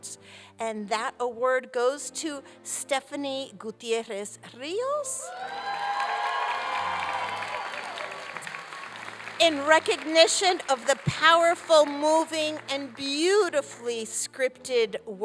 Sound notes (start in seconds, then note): 5.2 applause and cheering